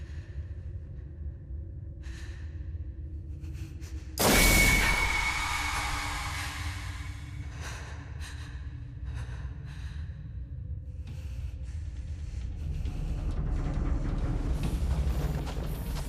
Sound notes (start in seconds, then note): 4.5 sword clanging; 7.5 Persephone panting; 12.9 dramatic music